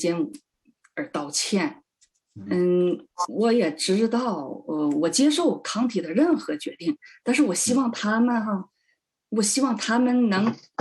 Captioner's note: speaking chinese